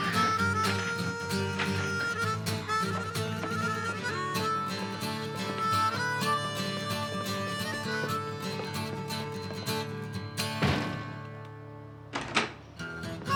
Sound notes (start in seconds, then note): 10.5 door closes